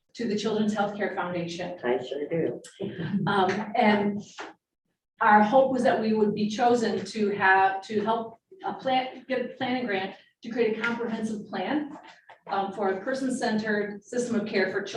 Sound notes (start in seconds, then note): 2.9 laughing